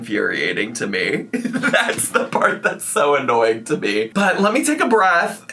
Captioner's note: laughing